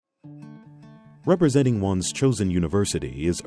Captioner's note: voiceover